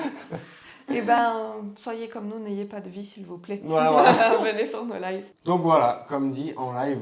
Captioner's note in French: rires